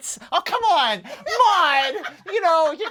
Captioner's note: laughs